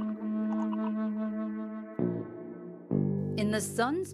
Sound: door closing?

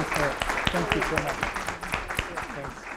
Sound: applause

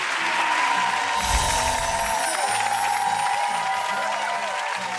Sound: audience cheering

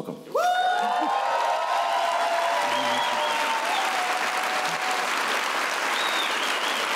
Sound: applause

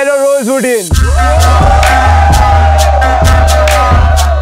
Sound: hooting

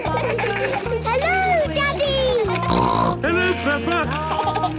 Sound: laughter; snorting; laughter

